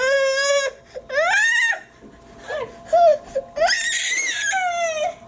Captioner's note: squealing screams